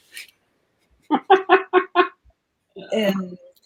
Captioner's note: laughter